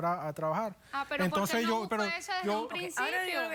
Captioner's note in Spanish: Hablan al unísono